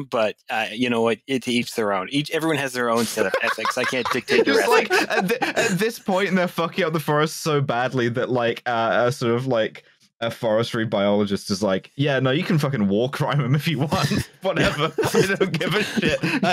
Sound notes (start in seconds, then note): 3.0 overcome with laughter; 5.8 laughter; 14.5 laughter